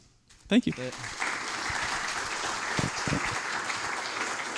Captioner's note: applause